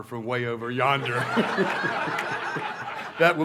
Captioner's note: laughter